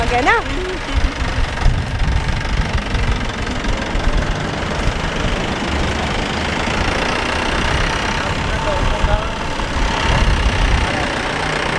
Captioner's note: engines